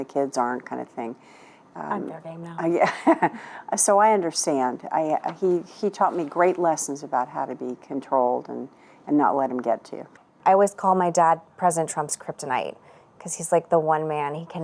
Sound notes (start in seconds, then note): 2.8 chuckles